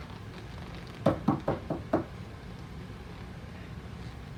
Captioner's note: knocking